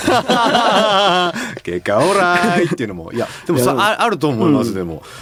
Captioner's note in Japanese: 笑い